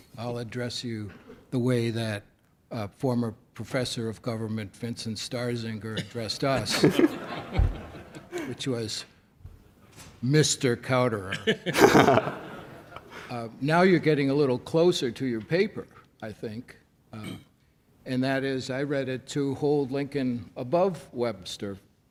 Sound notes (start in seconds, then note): 6.6 laughs; 11.4 laughs